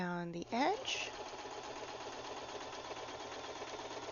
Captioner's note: sewing machine